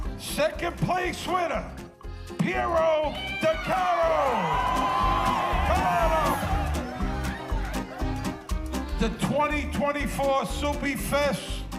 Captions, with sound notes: Second place winner, Piro/DeCaro. (audience cheering) (upbeat music) The 2024 Soupy Fest winner,